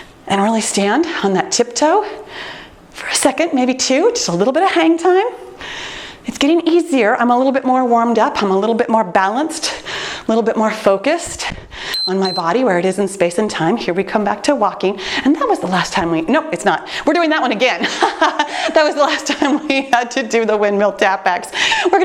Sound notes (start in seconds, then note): 11.9 timer beeps; 17.8 laughing